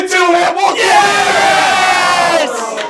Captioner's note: red team cheers